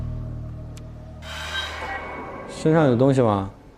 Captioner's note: "Ding" tense